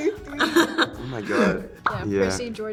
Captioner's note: laugh